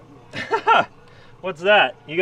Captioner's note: laughs